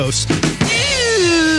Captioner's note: buzzing